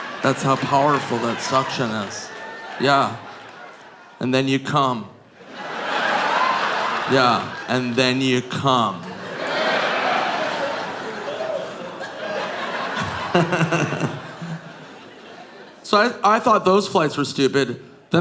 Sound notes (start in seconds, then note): 5.9 audience laughing; 8.6 all laughing